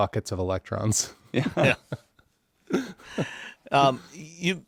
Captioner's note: laughing